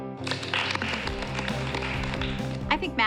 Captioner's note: applause